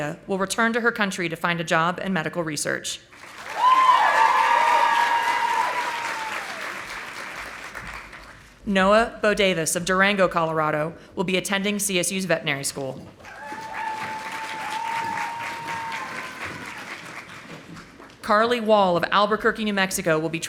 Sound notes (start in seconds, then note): 3.1 audience applauding; 13.2 audience applauding